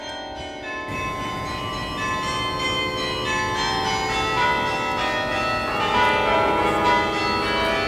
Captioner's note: bells ringing until end